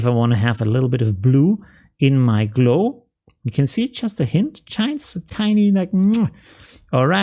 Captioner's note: muah